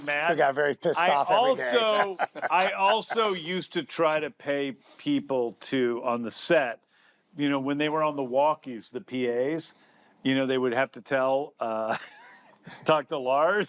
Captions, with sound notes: who got very pissed off every day. I also used to try to pay people, too, on the set, you know, when they were on the walkies, the PAs, you know, they would have to tell-- (LAUGHS) ...talk to Lars,